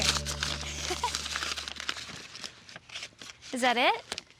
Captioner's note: tearing wrapping